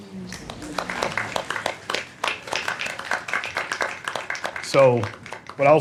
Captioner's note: gentle applause